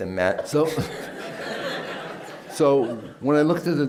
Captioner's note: laughter